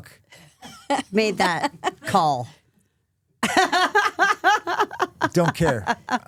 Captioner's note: laughing